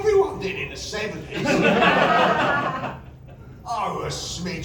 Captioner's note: laughter